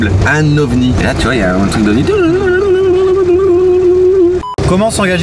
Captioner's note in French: voix aiguë